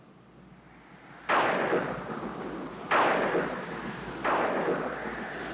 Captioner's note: thunder crashing